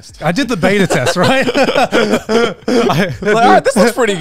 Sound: all laughing

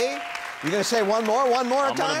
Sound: crowd clapping

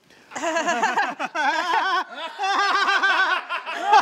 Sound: all laughing

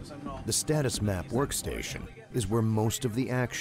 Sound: voiceover

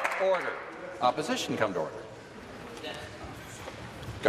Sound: applause

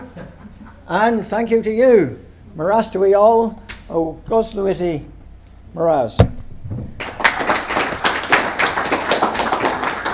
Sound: applause

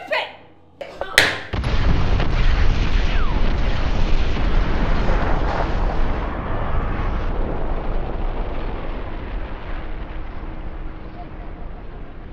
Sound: explosion

